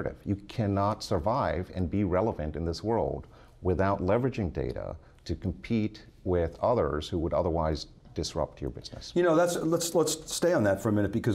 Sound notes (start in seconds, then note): none